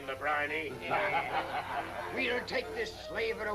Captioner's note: laughing